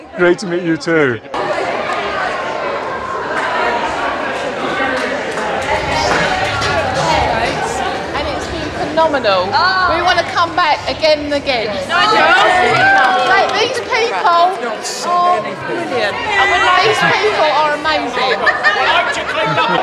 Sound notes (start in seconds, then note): 1.6 cacophony of voices